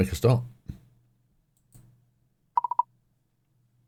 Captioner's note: beeping